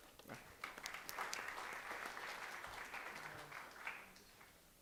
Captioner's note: applause